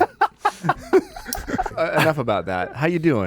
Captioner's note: laughing